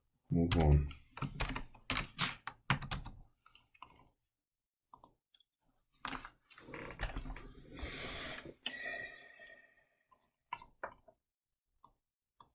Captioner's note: typing Sounds